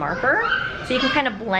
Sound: children playing

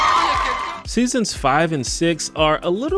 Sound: all cheering

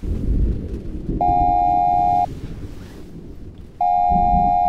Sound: thunder rumbling; alarm blaring

